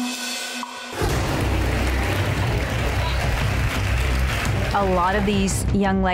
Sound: dramatic music; women applaud

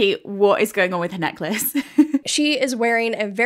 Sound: laughing

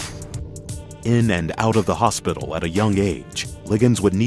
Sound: voiceover

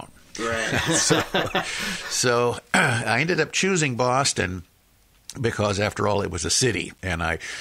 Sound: laughs

